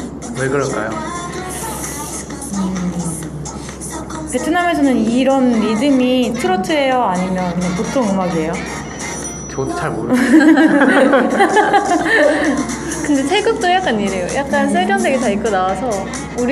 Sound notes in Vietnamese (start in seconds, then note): 10.0 Cười; 10.1 웃음